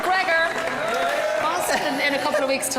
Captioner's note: cheering